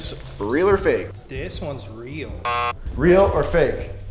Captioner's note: buzzer buzzes